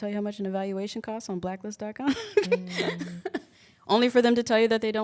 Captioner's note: chuckles